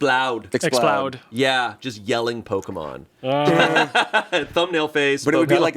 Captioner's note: laughs